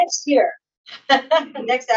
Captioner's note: laughs